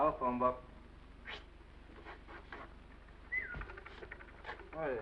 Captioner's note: whistles